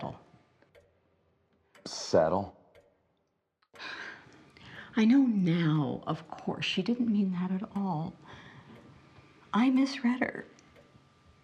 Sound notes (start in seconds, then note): 3.7 clock ticking